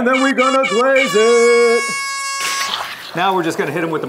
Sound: air horn

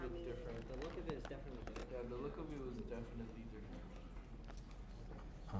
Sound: audience murmuring

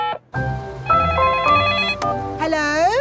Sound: beeping; phone ringing

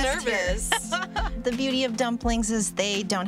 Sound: chuckles

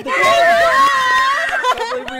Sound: screaming

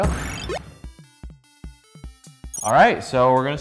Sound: electronic music; beep

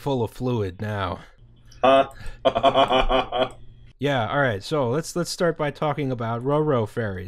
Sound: laughter

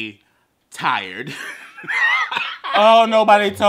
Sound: laughs

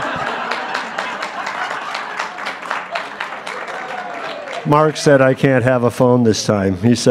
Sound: audience laughing

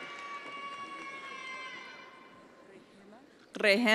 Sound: attendees applauding

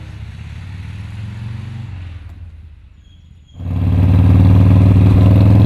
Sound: motorcycle engine purring

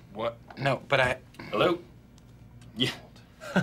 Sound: chuckles

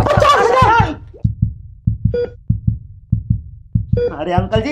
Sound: heart Beating Sound

